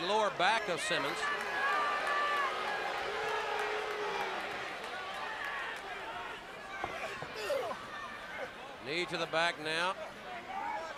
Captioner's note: crowd chatter